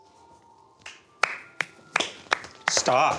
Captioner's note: Tater clapping